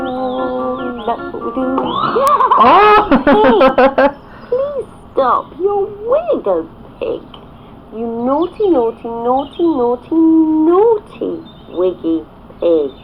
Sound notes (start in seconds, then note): 1.9 laughter